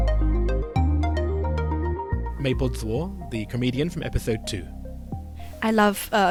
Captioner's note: voiceover